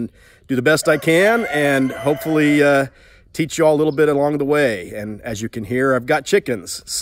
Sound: rooster crows

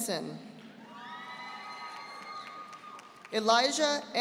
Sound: audience applauding

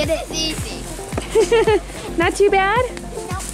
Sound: laughs

